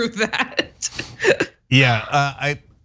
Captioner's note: laugh